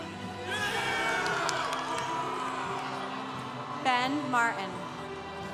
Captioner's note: congregation cheering